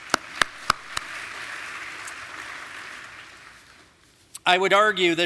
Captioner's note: audience applauding